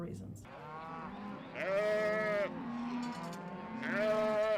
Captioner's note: cattle lowing